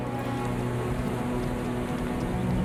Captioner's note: horse hooves